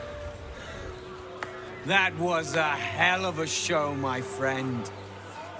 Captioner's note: clapping